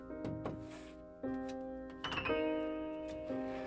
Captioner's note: finger tapping